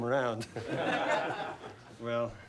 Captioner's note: everyone laughing